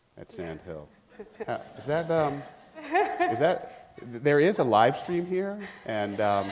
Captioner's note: laughing; laughing